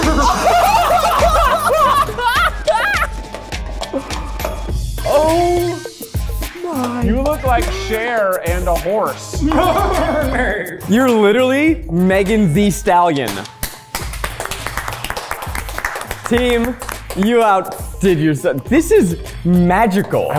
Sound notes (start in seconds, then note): 0.0 both laughing excitedly; 9.1 neighing; 13.5 both clapping